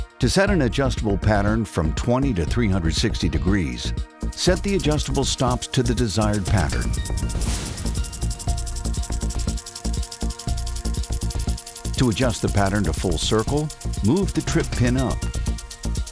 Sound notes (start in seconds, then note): 7.4 gentle continues music; 7.4 sprinkler clicking; 15.9 gentle continues music; 15.9 sprinkler clicking